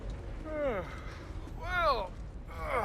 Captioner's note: yawn